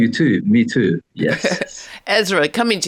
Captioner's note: chuckles